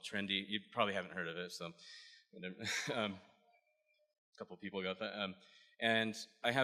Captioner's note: lauhgs